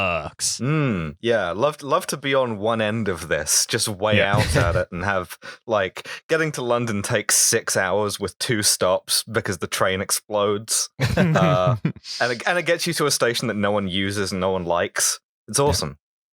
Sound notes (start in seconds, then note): 11.0 laughter